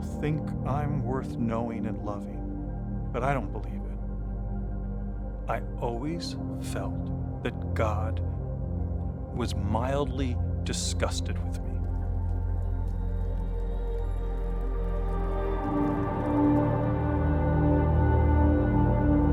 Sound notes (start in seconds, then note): 11.4 fire crackling; 11.6 swelling instrumental music